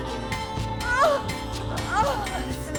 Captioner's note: moaning